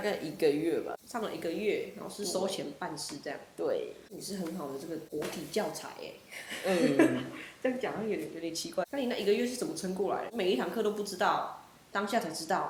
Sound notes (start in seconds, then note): 6.4 laughs